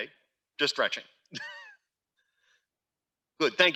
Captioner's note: laughs